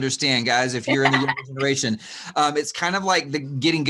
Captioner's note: laughs